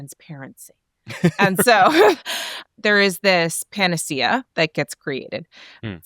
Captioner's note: laughs